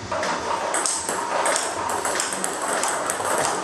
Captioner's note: ball ping pong hitting